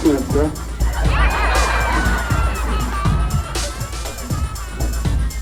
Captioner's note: audience laughing